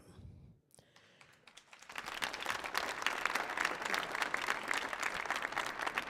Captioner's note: audience applauding